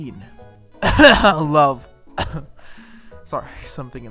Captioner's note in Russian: кхм